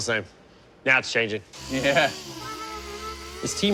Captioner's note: laughing